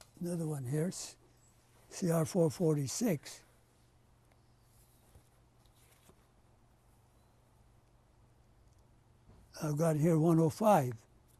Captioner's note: pauses for 6 seconds